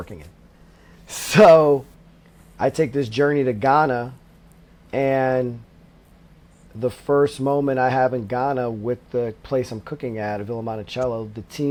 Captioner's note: laughs